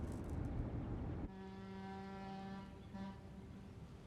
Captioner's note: boat horn blowing